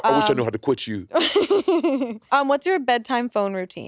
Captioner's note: laughing